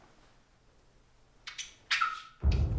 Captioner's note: squeaking